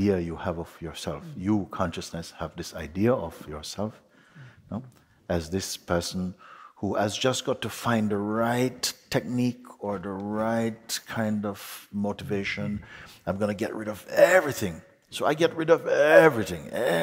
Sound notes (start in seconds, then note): none